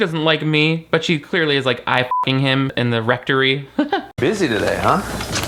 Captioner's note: beep